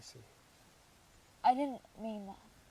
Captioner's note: wind blowing